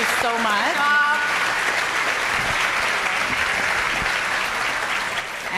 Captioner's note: audience applauding